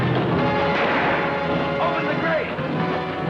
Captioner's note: gun fires